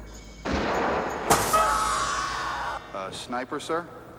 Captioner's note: guns firing; screaming